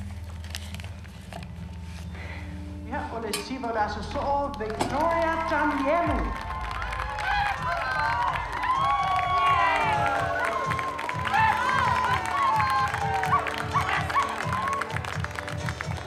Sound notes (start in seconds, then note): 6.2 cheering, applause